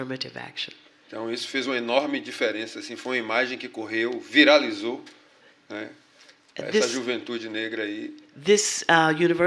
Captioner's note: speaking portuguese